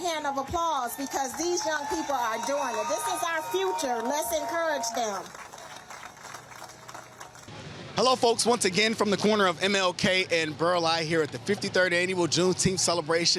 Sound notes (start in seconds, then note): 7.3 crowd cheering